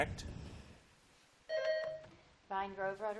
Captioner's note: buzzer dings